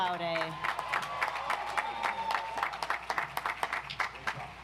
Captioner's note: audience applauds